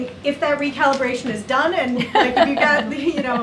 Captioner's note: laughs